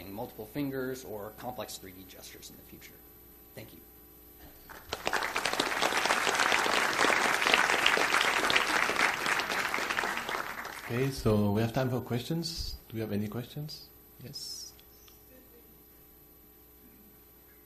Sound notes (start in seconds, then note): 4.6 audience applauding